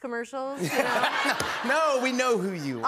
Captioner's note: laughter